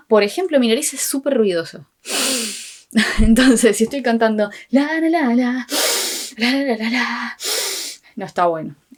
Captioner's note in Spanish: respiración ruidosa